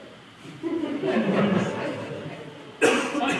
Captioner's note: laughter